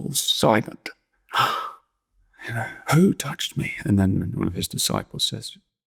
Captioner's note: gasps